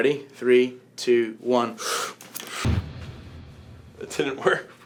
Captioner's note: whoosh